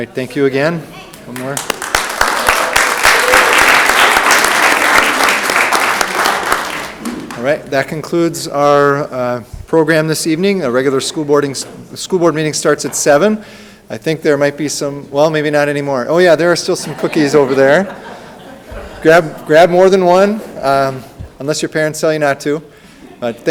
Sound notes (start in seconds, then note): 2.9 audience clapping; 16.7 audience laughing